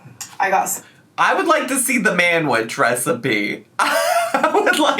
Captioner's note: laughs